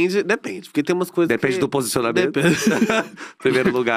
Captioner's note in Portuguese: risos